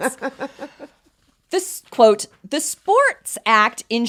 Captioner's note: laughs